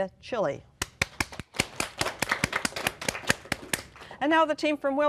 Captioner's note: applause